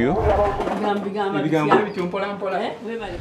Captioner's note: people speaking